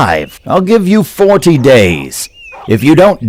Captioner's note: dog barking